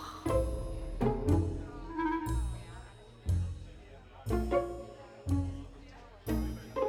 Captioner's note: guests chattering; playful music